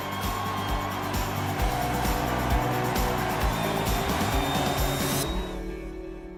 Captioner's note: cheering